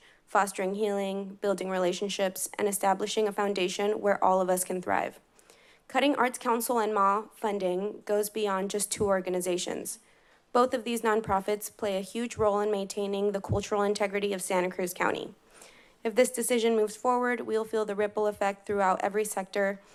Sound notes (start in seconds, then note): none